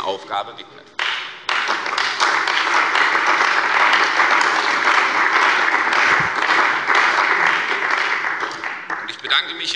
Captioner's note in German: Beifall bei der CDU und dem BÜNDNIS 90/DIE GRÜNEN